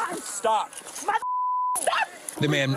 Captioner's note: screaming